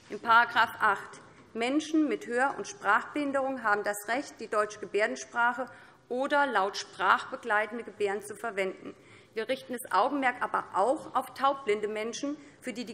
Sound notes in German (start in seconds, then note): none